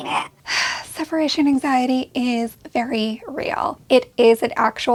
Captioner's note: sighs